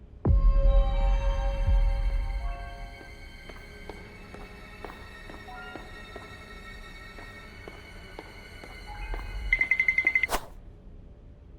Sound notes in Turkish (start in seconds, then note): 0.2 tekinsiz müzik; 9.6 parmak ucunda yürüme sesleri